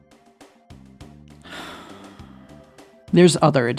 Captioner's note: sigh